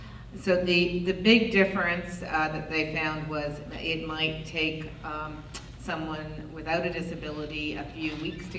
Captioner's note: none